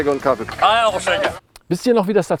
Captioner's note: in eastern German dialect